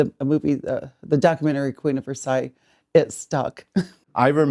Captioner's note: laughs